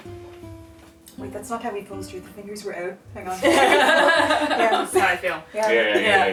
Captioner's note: laughter